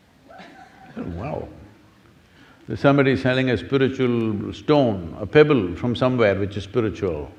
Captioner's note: laughter